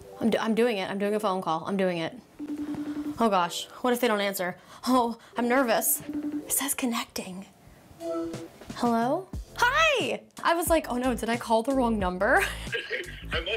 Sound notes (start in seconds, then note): 2.3 FaceTime ringing; 8.0 FaceTime answering tone